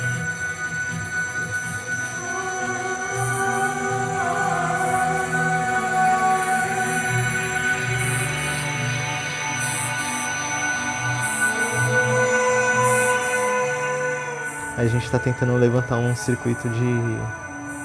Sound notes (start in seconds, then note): 1.7 electric noises